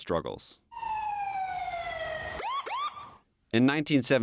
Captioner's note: sirens blaring